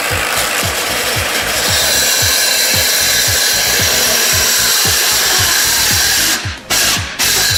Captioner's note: sawing noises